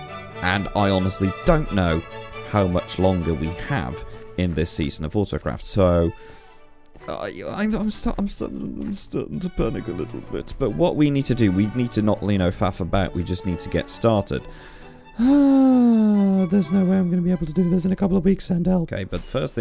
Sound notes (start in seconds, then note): 15.1 resigned sigh